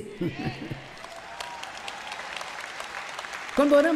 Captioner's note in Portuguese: plateia aplaudindo